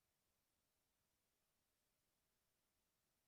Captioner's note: none